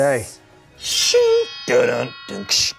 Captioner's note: metal grates